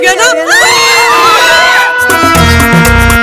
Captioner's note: Screams